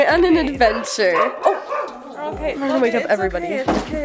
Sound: dog barking

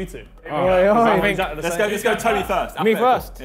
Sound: group clamouring

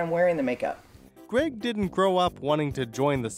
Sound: voiceover

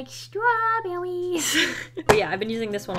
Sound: chuckles

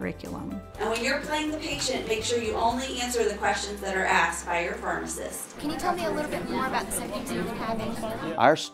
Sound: sound of faculty and students talking

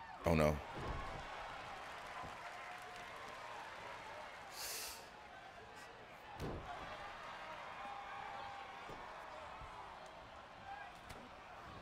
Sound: applause

